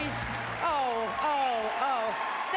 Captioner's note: applause